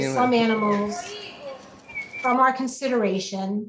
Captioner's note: child speaking foreign language